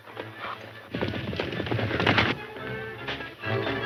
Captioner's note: horses galloping; dramatic music